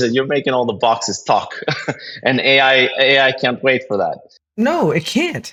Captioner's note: laugh